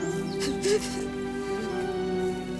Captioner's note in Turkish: Ağlıyor